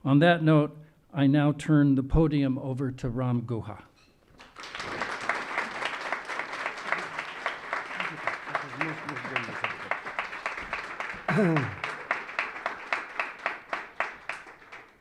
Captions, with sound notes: On that note, I now turn the podium over to Ram Guha. (audience applauding)